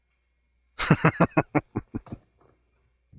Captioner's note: chuckling